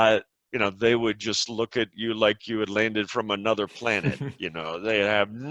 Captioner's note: laughs